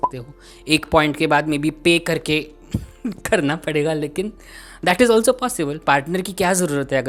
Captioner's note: sniggers